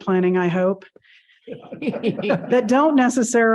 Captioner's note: all chuckling